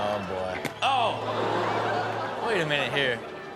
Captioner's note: audience gasps